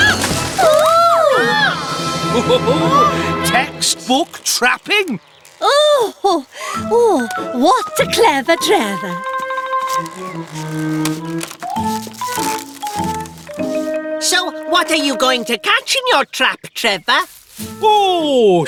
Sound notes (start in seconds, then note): 0.1 twang!; 0.1 ugh!; 1.1 all Gasp; 2.4 excited Chatter